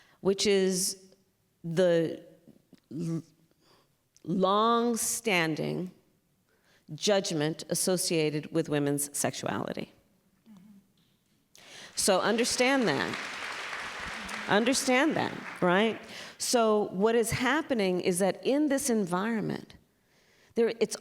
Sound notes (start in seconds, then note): 11.6 applause